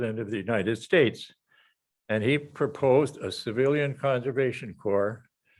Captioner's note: none